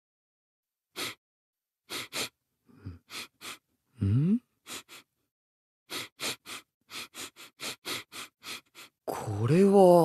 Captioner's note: sniffing